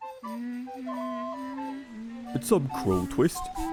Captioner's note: Rudeus humming God Save the Queen